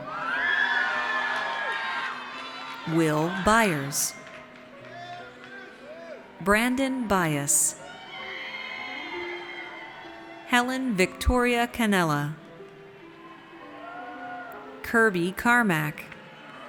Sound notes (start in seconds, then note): 0.0 audience cheers; 7.8 audience cheers; 16.2 audience cheers